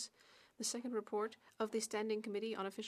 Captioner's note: speaking French